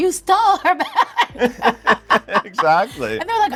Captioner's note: all laugh